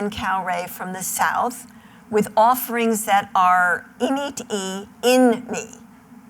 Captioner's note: non-english speech